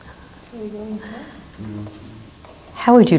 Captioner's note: people speak off mic